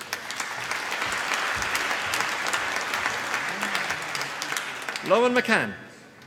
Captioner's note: applause